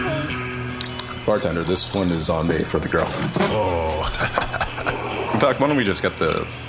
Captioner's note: laughs